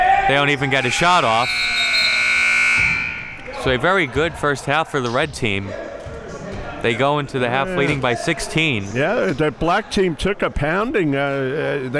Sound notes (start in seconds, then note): 0.8 buzzer dings